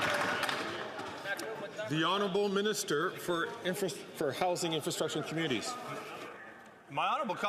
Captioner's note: some Applause